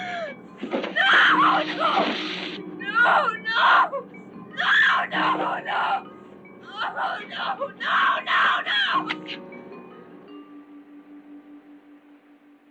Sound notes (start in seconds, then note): 0.0 crying; 0.9 screaming